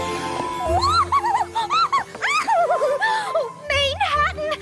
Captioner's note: excited squeals